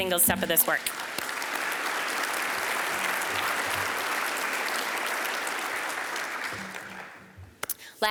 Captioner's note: applause